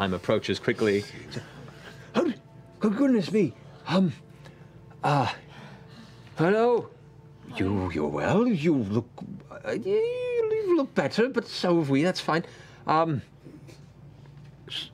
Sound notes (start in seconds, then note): none